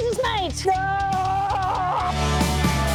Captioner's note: screaming